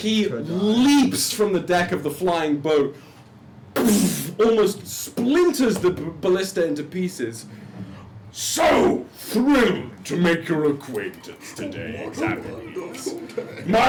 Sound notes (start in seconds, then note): 3.3 heavy thud